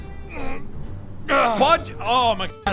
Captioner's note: ahhhhh